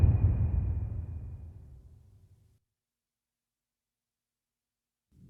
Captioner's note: dramatic sound